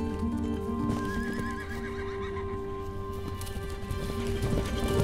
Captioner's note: horse whinnies